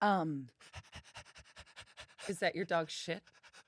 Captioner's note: pants